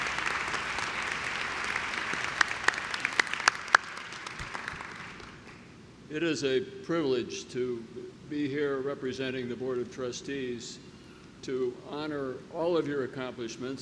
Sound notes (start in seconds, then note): 0.0 clapping